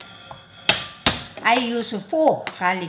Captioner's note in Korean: 마늘을 칼등으로 치는 소리